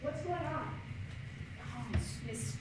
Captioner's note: whispering